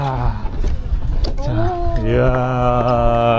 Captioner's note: door opened